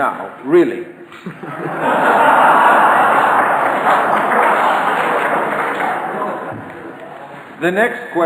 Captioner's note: audience laughter